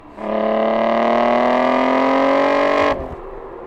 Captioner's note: engine revving